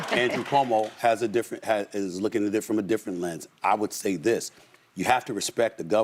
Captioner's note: laughter